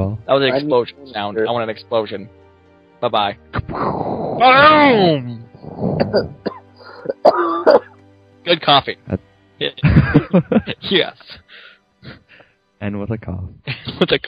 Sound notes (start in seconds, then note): 3.7 explosion sound imitation; 7.0 someone coughs